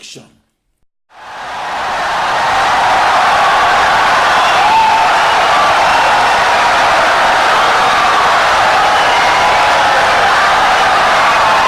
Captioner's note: wild applause and cheering for 17 seconds